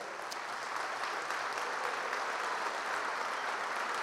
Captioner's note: applause